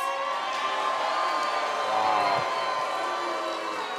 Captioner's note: cheers & boos